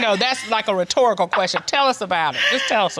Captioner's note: laughs